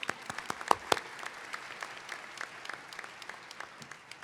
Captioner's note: applause